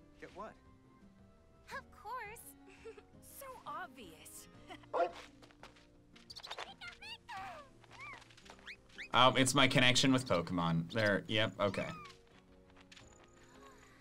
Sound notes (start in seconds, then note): 4.9 dog barking; 6.3 Pikachu squeaking